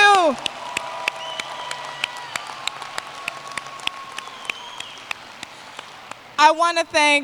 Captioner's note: applause